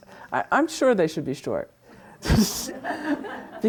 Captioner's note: laughs; students laughing